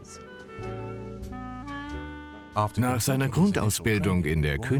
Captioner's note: voiceover